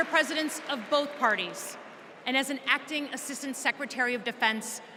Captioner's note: applause